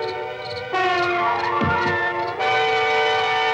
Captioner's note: crickets; dramatic music